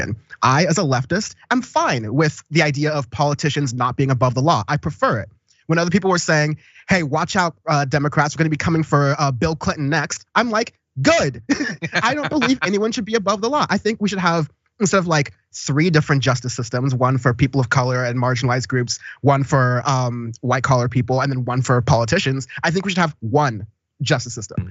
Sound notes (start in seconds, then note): 11.3 laugh